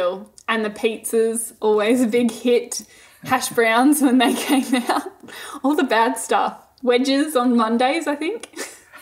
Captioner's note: both laughing